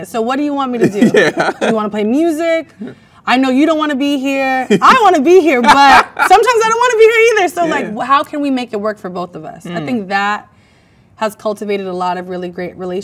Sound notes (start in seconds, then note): 0.8 laughs; 4.6 man laughs